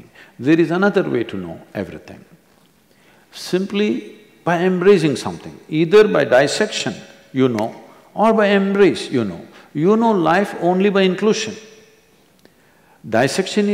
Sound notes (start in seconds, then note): none